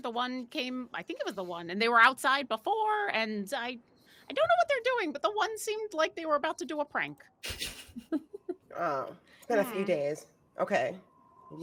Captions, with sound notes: The one came, I think it was the one and they were outside before and I dunno what they're doing, but the one seemed like they were about to do a prank. (laughing) - Oh, it's been a few days. Okay.